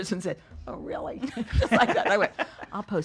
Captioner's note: laughs